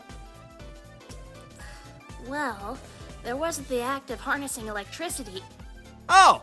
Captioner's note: sigh